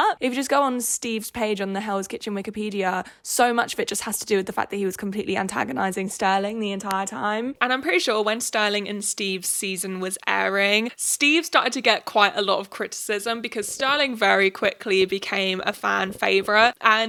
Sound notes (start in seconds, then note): none